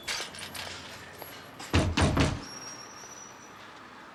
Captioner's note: banging